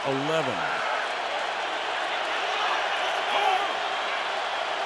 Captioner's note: cheering